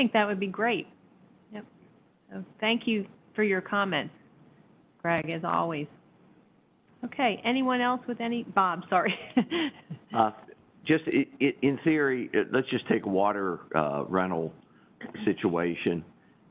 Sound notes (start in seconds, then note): 8.9 laughs